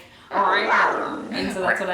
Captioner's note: panther snarl